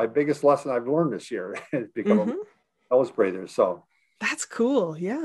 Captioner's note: laughing